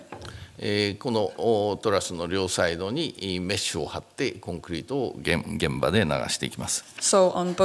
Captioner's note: speaking japanese